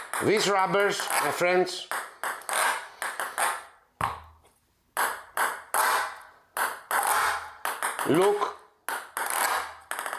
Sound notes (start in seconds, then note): 1.9 ball bouncing; 8.8 ball tapping